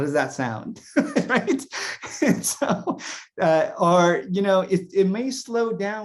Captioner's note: laughs